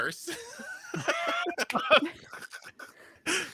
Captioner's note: laughs